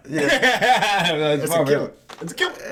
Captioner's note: laughing